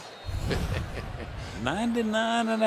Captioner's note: laughs